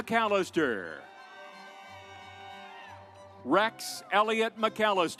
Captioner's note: audience applauds